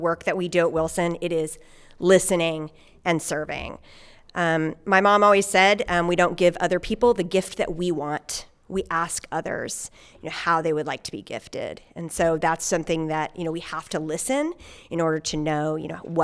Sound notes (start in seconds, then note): none